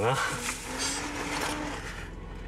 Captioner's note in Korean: 의문의 신음소리